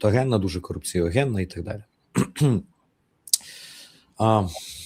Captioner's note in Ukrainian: прочищення горла